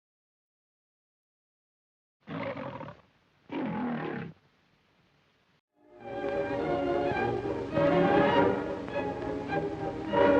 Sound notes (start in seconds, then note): 3.5 lion roars; 5.9 lively music